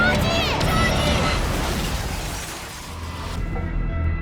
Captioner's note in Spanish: estrépito; música inquietante